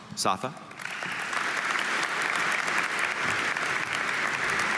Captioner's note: audience applauding